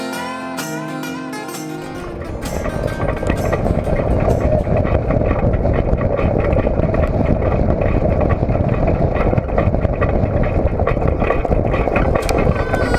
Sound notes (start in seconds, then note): 2.7 loud rumbling sound